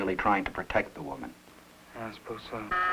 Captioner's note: intercom buzzes